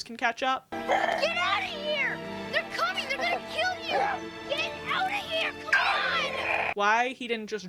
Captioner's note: LB grunting